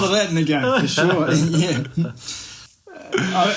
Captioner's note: laughs